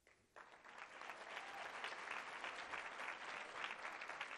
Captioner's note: applause